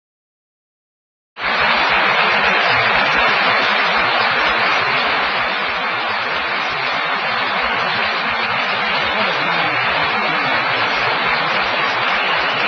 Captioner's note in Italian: applausi